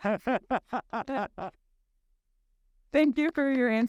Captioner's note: laughing